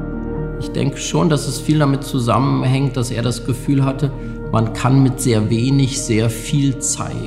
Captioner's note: gentle music; speaking in foreign language